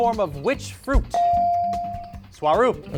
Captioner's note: beep